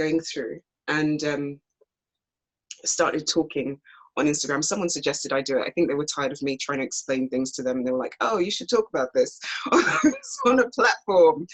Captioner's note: laughs